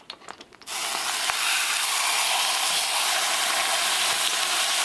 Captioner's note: fish sizzling